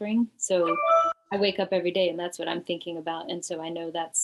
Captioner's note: computer sound